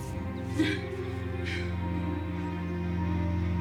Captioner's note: panting; upbeat music